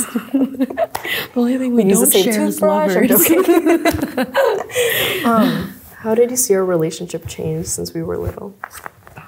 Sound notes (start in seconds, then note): 0.0 laughs; 3.0 laughs